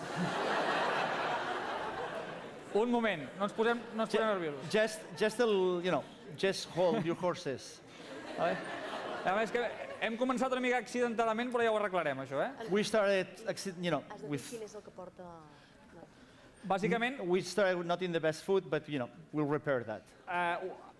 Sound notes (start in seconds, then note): 0.0 laughter; 4.0 non-english speech; 10.4 non-english speech; 14.8 non-english speech